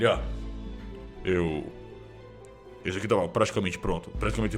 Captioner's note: none